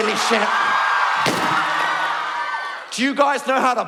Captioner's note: audience shocked screaming